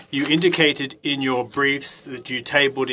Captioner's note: speaking French